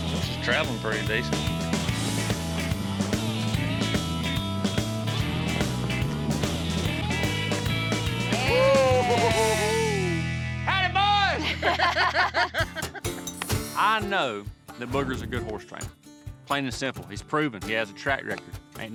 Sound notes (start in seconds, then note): 8.4 giggling; 11.3 laughter